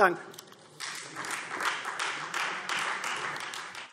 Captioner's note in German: Beifall Freie Demokraten